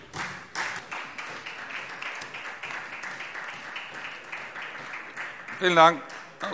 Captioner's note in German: Beifall SPD und vereinzelt DIE LINKE